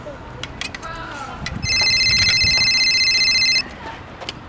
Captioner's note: phone ringing